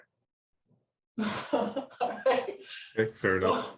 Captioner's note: laughs